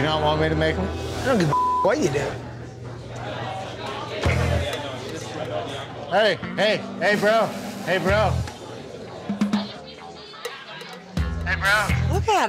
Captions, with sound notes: - Do you not want me to make them? - I don't give a (beep) what you do. - Hey, hey, hey bro, hey bro. Hey bro.